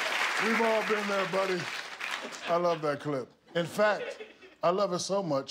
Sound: applause

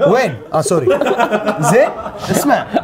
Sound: laughing

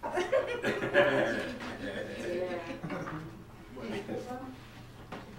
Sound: laughter & distant conversation

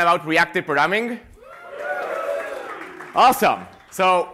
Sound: cheering

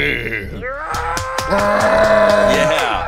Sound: cheering

